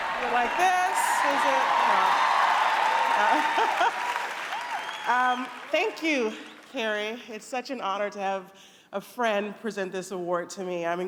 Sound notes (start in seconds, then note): 0.0 cheering